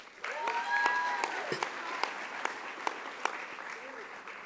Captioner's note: audience applauding